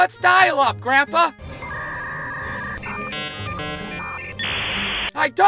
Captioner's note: dial-up noises flashback